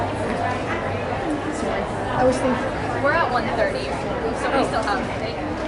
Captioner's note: background talking